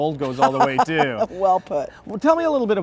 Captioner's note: laughing